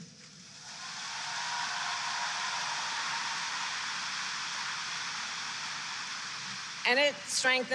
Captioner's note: applause